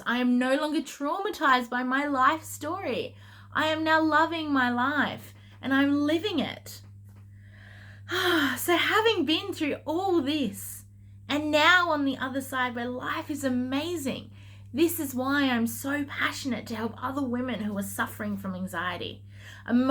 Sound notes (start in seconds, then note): 7.5 exhaling